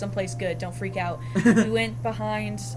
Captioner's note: laughs